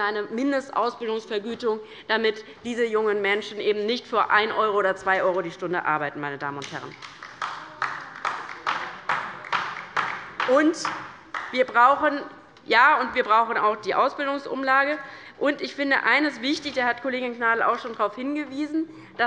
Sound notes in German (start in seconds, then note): 6.8 Beifall bei der LINKEN